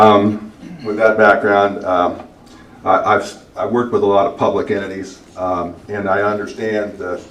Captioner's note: clears throat